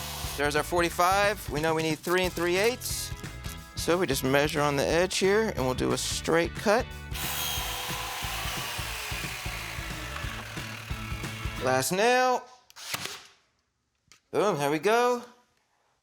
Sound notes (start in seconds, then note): 0.0 saw whirring; 7.1 saw whirring; 12.7 nail gun snaps